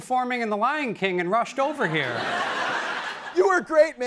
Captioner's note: laughter